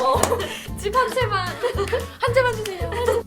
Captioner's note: clap!; clap!